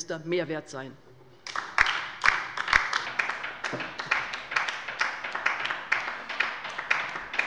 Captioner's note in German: Beifall bei der LINKEN